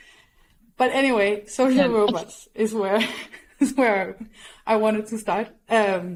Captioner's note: chuckles